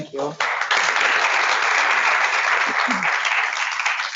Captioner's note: audience applause